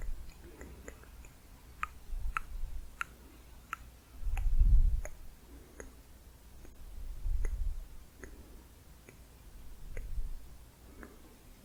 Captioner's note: slower tongue clicking